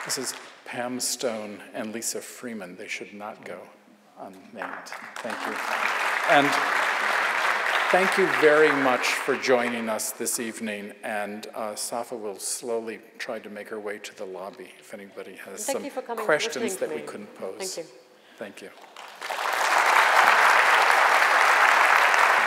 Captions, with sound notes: This is Pam Stone and Lisa Freeman, they should not go unthanked. Thank you. (audience applauds) And thank you very much for joining us this evening, and Safa will slowly try to make her way to the lobby, if anybody has - And thank you for coming - some questions - and listening to me. - that we couldn't pose. - Thank you. - Thank you. (audience applauds)